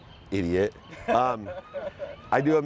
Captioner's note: audience laughs